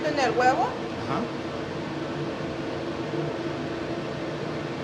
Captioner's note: speaking in foreign language